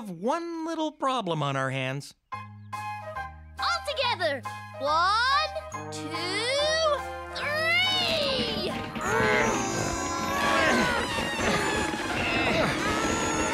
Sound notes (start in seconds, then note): 4.9 straining sounds; 7.4 straining